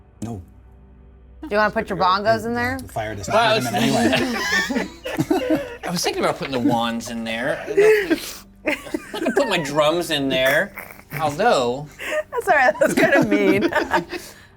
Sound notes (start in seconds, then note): 3.3 players laughing